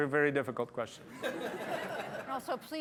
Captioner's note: laughter